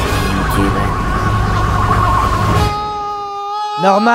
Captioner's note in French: Voix robotique; cris de Norman